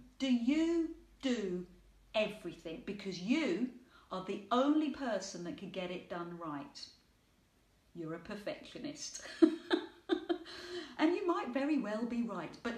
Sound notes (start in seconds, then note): 9.3 laughing